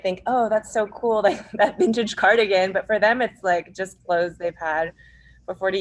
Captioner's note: laughs